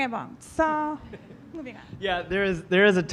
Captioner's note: laughing